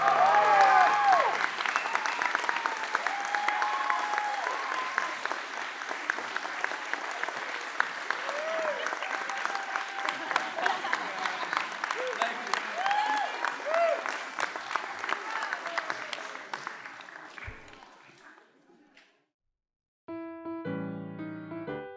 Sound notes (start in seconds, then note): 0.3 applause; 0.3 cheering; 10.0 laughter